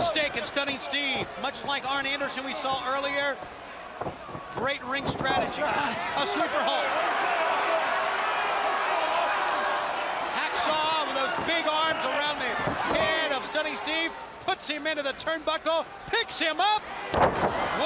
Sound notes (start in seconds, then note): 7.3 crowd chatter; 10.4 crowd cheering